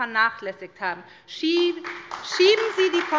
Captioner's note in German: Beifall SPD